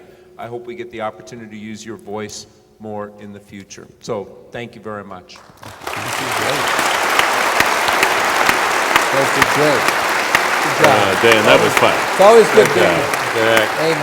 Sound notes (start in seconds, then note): 5.4 applause